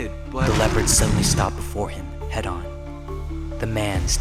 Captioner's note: roars